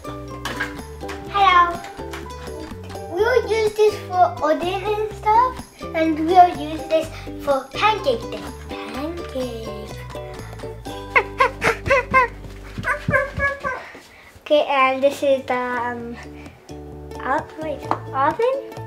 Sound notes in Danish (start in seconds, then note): 10.9 Hunde lyde og gøen